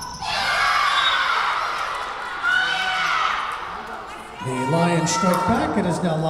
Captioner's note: Lions cheering; whistle blowing